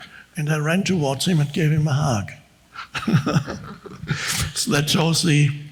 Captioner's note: laughs